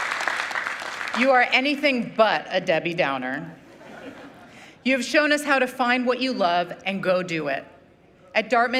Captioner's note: applause